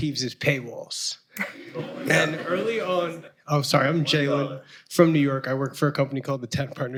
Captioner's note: laughter